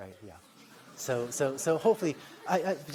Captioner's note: laughter